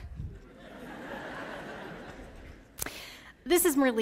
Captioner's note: laughter